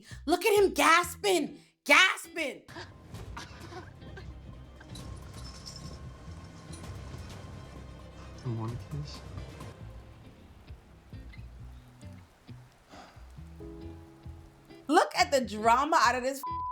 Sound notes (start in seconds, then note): 2.7 laughing; 5.5 dramatic music; 16.4 beep